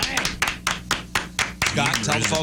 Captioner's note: clapping